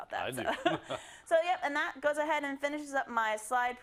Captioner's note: laugh